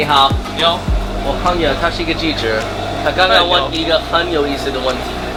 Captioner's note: speaking in a foreign language